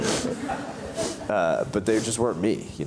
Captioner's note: audience chuckles